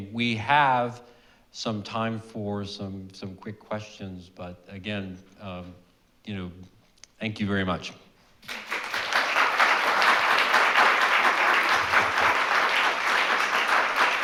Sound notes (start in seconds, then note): 8.4 audience clapping